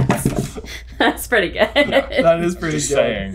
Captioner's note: chuckling